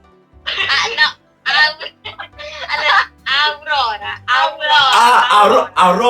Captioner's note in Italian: ridendo